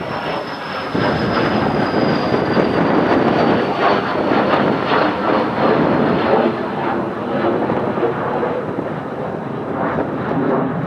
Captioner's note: plane flies overhead